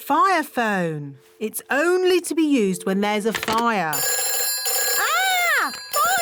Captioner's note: phone rings